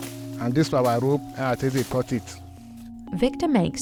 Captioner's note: speaking in foreign language